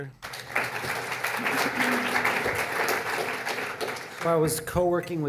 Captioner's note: audience applauding